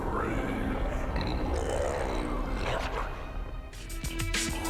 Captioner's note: growls